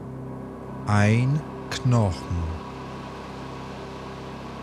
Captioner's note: german